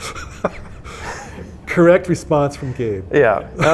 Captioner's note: laughing